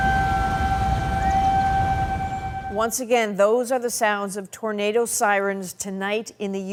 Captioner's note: sirens